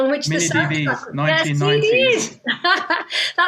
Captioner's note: laughs